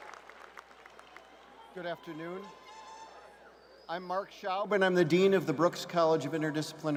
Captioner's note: cheers and applause